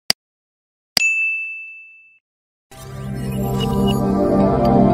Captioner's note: bell rings